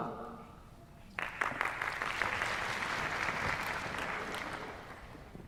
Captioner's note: applause